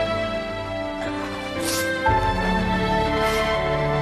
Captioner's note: Amor sniffles